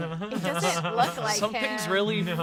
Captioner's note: laughs